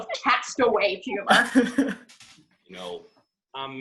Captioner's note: LEO and HARPER laugh